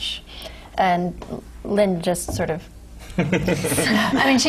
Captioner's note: laugh